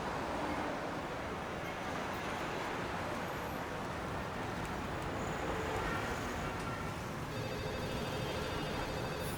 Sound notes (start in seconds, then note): 3.4 horns honking